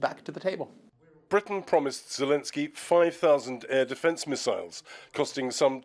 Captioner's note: voice-over